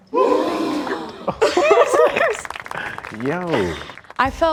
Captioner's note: gasping